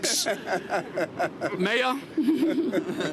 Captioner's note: laughter